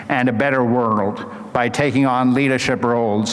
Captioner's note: none